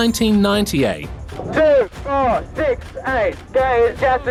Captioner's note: on megaphone